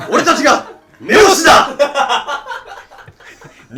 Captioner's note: and laughing so hard